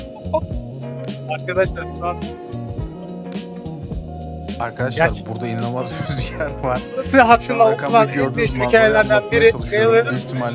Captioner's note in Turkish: homurdanır